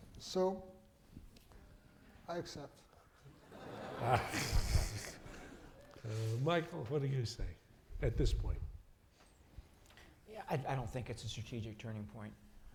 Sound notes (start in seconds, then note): 3.3 laughter